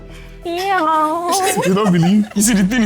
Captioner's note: laughs